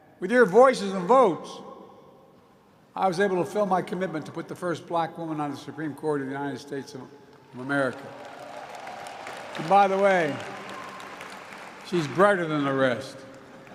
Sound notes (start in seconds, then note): 7.4 applause